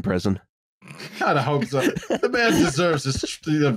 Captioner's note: snorts